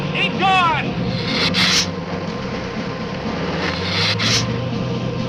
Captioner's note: lizard hissing